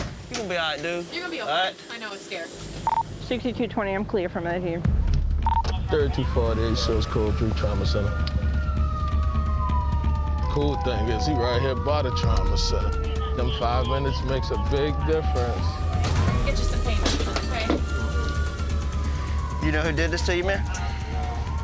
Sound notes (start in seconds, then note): 8.3 siren wailing